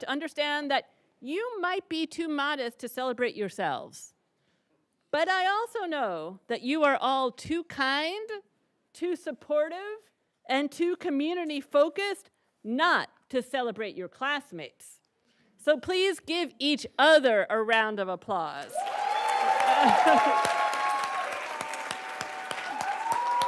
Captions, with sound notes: to understand that you might be too modest to celebrate yourselves, but I also know that you are all too kind, too supportive, and too community-focused not to celebrate your classmates. So, please give each other a round of applause. (laughs) (attendees cheering and applauding)